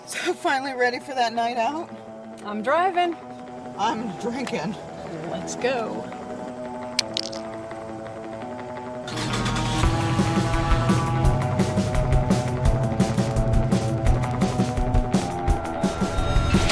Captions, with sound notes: - So, finally ready for that night out? - I'm driving. - I'm drinking. - Let's go. (engine revving) (upbeat music)